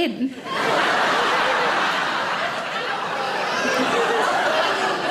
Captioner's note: audience laughing